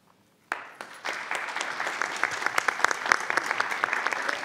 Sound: audience applauds

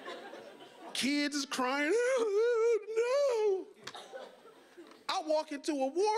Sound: audience laughing; fake sobbing

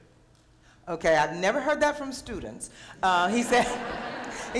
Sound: laughter

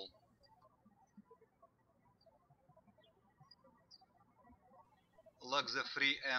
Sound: birds chirping

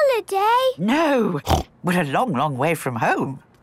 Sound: snorts

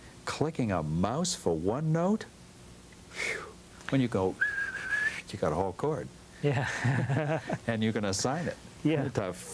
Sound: whistles

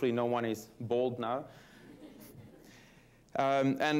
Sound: laughter

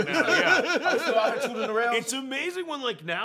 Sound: laughter

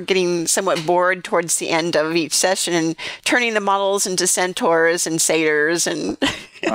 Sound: laughter

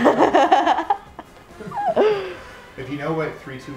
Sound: laughing

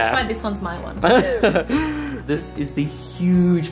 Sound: laughs

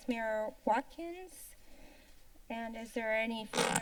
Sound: silence

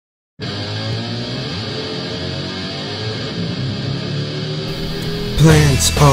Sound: ePIC RACECAR NOISES

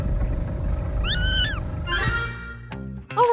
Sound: Marlin meowing

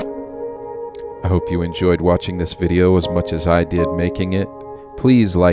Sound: song ends; male voice speaking

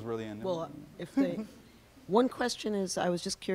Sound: laughs

